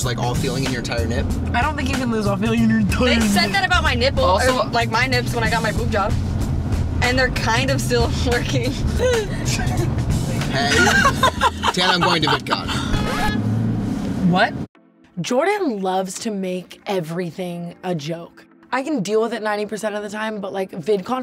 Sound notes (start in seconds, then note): 10.4 laughing